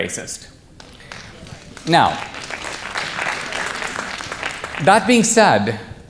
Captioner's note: audience applause